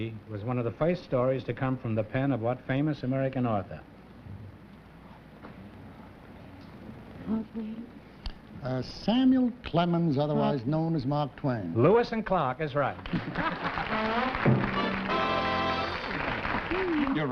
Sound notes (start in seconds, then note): 5.0 whispering; 14.5 applause